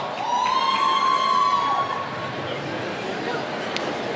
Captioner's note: cheering